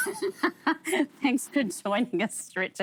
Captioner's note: laughter